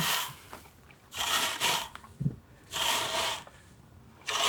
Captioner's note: flaxseed rustles